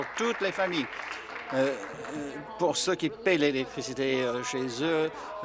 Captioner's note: applause